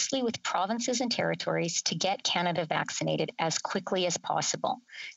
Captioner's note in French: voix de l'interprète